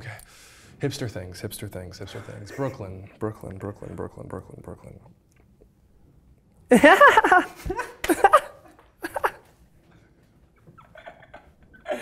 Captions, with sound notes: Okay. Hipster things, hipster things, hipster things. Brooklyn, Brooklyn, Brooklyn, Brooklyn, Brooklyn, Brooklyn. (laughing)